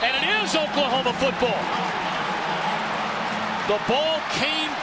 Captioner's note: crowd cheering